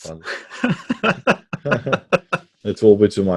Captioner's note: laughs